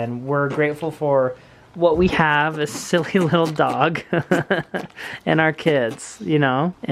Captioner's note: laughs